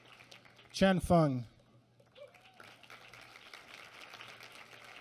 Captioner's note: applause